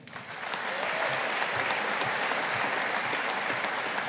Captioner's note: audience applauding